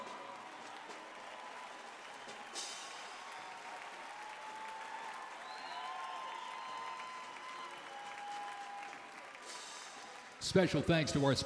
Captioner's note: cheers and applause